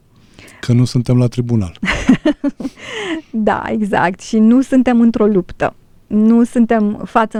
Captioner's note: laughter